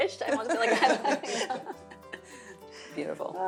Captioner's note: laughs